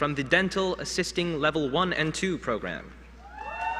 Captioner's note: applause